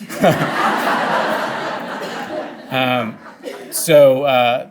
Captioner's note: audience laughing